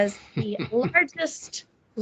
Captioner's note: laughing